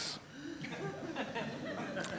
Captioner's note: laughter